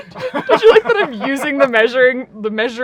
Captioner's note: laughing